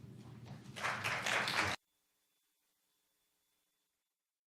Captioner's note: applause erupts